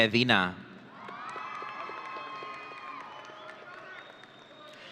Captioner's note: audience cheering